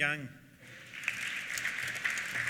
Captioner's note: applause